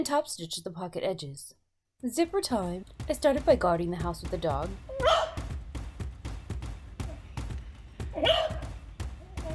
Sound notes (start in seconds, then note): 2.2 fast paced music playing; 5.0 dog barking